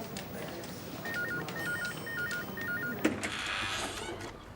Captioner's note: phone ringing; door creaking